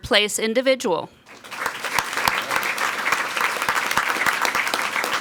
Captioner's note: people clapping